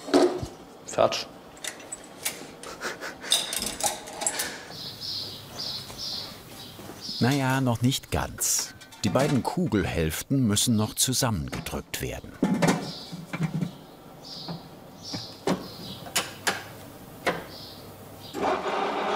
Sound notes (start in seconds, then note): 2.5 he laughs; 5.1 birds chirping